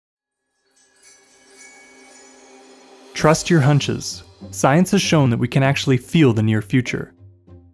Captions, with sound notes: [Light chimes] Trust your hunches - science has shown that we can actually feel the near future.